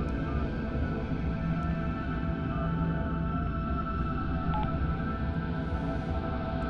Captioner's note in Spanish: Sonido al marcar